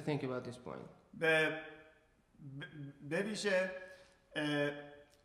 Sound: speaking in farsi

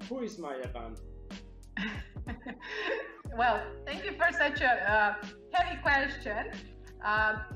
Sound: laughs

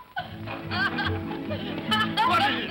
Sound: boy laughs; whimsical music; boy laughs

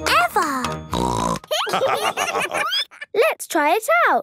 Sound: snorting; laughter

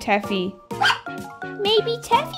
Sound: bark!

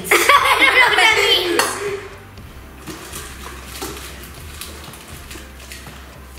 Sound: laughs

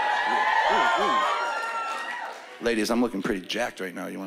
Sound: cheering and whooping

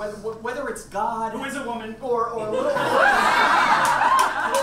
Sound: audience laughs

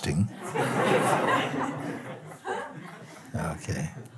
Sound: laughter

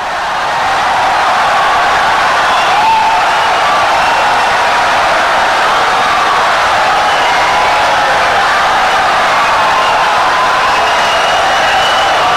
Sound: wild applause and cheering for 17 seconds

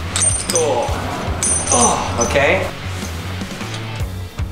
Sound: grunting

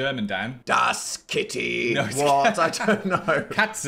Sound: laughs

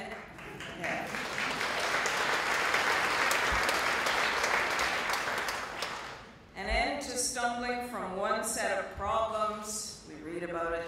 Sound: applause

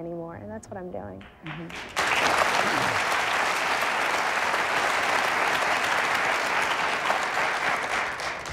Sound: audience applauding

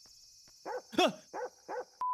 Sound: dog barks

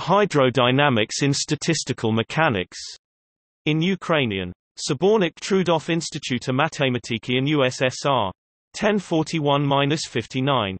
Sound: in Ukrainian

